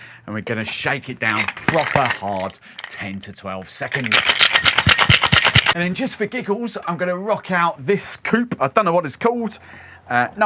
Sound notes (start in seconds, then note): 3.8 ice clinking